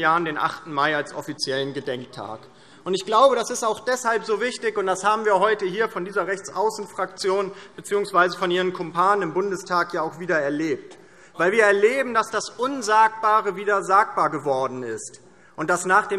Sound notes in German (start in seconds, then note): none